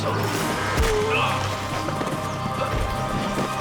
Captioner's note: animal grunts; tense classical music